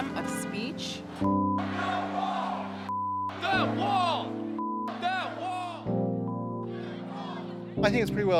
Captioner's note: chanting